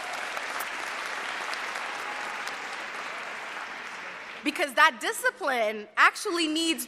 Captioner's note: cheers and applause